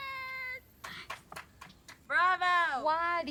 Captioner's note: friend clapping